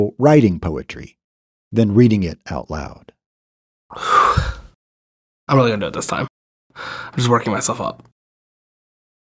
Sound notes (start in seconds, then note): 3.9 sighing heavily